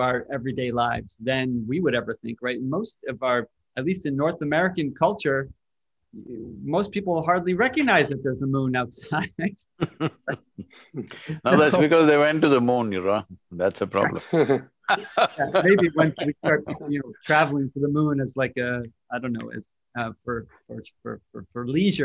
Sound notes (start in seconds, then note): 9.8 laughs; 14.8 laughter